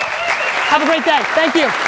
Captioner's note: audience applauding and cheering